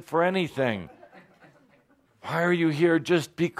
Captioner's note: laughter